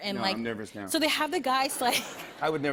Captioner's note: laughter